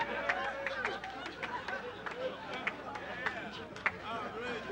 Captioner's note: audience laughs